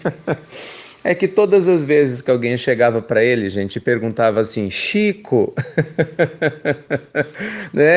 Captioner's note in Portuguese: risos; risos